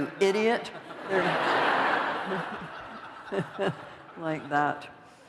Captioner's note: laughter